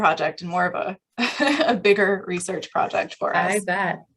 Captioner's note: laughter